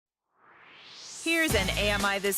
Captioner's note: swoosh